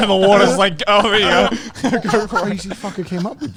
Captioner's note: laughs loudly